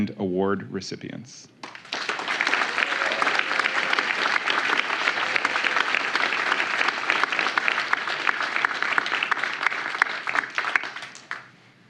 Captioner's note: applause